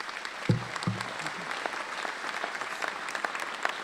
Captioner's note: applause